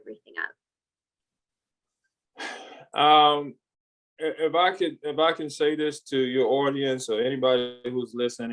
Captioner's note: sighs